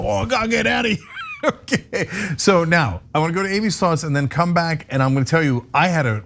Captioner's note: laugh